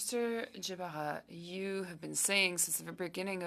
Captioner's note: speaking French